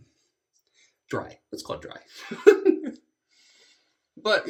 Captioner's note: laughs